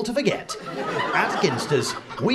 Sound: audience laughter

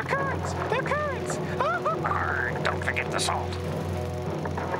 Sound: wails

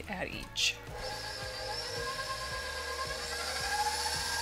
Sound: mixer whirring

